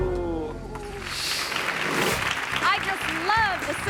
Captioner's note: audience clapping; graphic whooshes